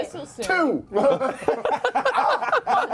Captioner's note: laughter